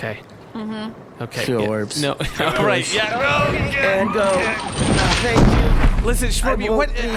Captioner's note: noises of exertion, heavy thuds and clanging chains